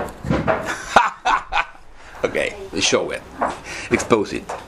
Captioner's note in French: Rires gras